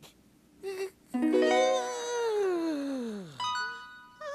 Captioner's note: yawning